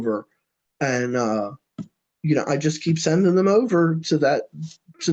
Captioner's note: laughs